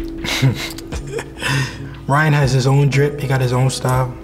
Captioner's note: laughs